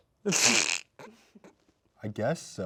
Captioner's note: snickering